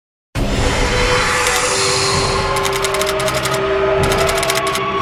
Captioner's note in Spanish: none